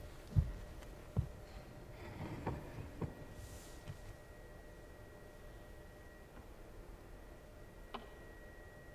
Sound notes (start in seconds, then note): 2.0 chair scraping